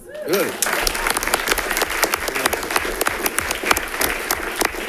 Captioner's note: audience applauding